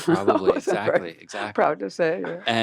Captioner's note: laughing